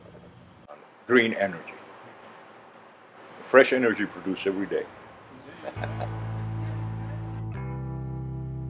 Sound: chuckles

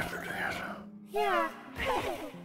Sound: giggles nervously

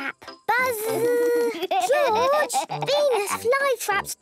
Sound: George laughing

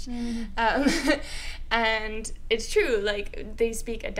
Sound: laughs

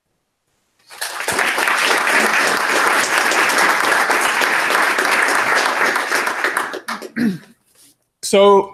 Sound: applause

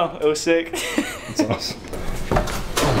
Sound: laughs

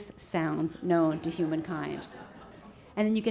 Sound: audience laughs

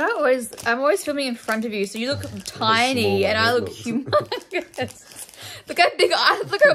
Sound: laughter

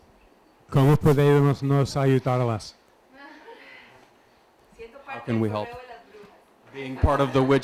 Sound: Spanish

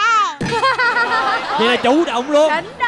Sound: laughing

